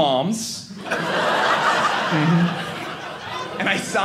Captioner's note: audience laughing